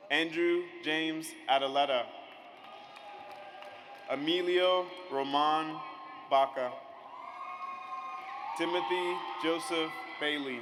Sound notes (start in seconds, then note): 2.3 audience applauds; 7.0 audience cheers